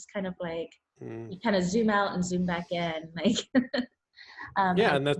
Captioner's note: laughs